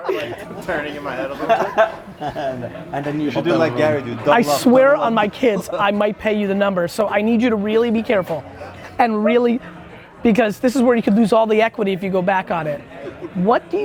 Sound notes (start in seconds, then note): 0.0 laughs